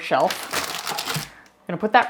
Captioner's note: paper crinkling